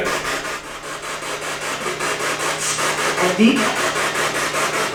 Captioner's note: spirit box chattering